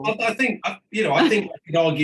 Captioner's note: chuckles